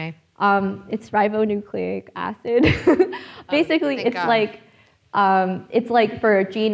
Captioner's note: chuckling